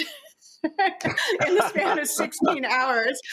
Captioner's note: all laughing